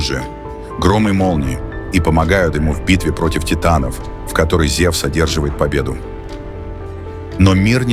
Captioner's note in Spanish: truenos y relámpagos